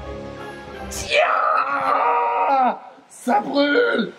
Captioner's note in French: cri de douleur; autre cri de douleur